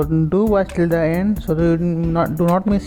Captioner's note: Vietnamese